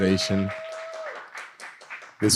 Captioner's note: applause